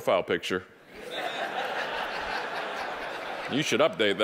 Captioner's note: audience laughing